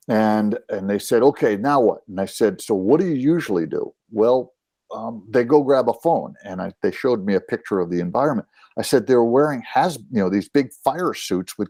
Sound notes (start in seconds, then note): none